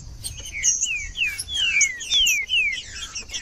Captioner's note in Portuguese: trinca ferro cantando